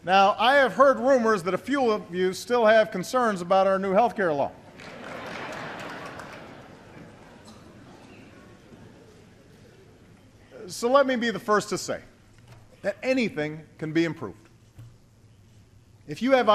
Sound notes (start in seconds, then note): 4.7 laughter